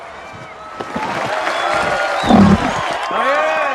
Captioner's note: crowd cheering